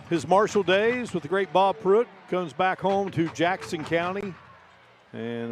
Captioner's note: applause